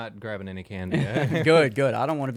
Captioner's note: laughing